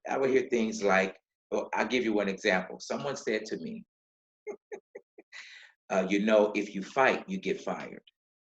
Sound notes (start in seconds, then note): 4.5 laughing